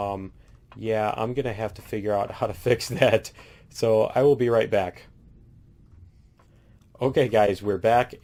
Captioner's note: laughs